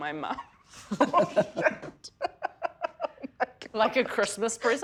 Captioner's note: chuckles loudly